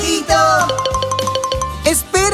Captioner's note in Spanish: Sonido de campana